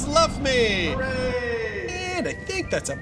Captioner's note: echoes